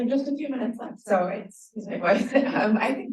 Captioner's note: laughs